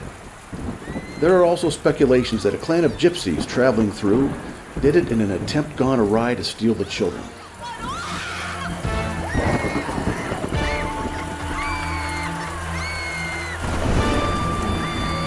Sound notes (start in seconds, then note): 0.6 victims screaming; 7.9 victims screaming; 9.1 dramatic music